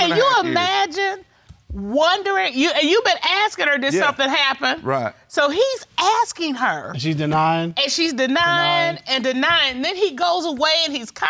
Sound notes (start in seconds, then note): 2.3 stammers